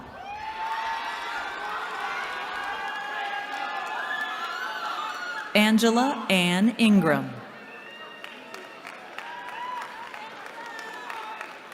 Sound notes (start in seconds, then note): 0.0 cheering; 7.5 cheering